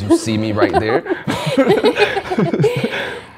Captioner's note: laughs